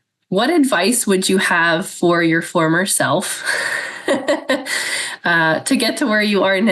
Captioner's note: laughs